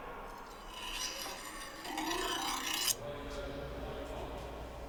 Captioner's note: knife clinking